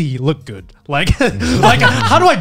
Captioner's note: laughs